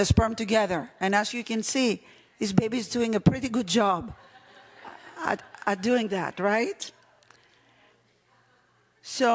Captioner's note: laughing